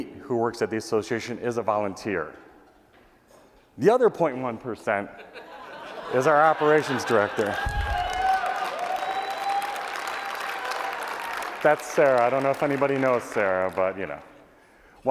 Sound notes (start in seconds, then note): 6.8 applause